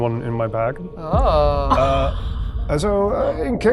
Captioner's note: chuckling